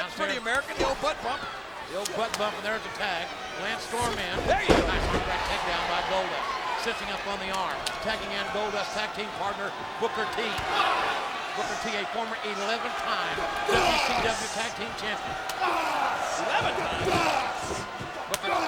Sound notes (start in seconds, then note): 0.0 chuckles; 15.6 Booker T grunts; 15.6 hand slaps